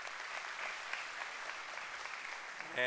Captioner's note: applause